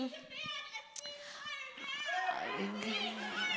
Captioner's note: audience chanting